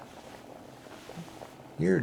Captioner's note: the sound of removing the hood from the head